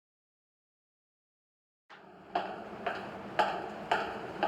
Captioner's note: footsteps approaching